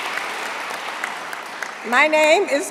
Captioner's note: applause